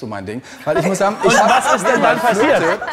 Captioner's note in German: Lachen